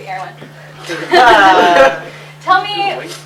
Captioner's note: laughter